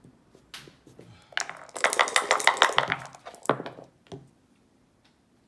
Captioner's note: dice shaking